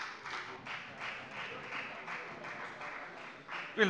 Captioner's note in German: Beifall bei der FDP